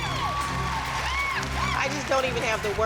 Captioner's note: cheering